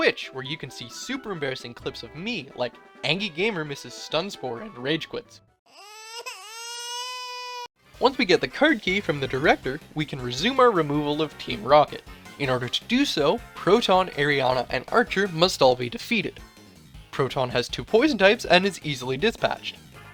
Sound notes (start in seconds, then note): 5.6 baby crying